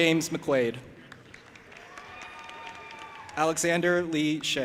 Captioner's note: audience applauding and cheering